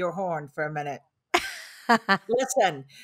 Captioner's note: laughs